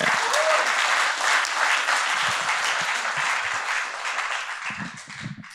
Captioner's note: applause